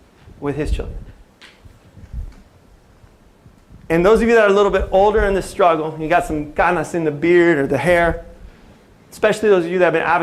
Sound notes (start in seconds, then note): 6.7 non-english speech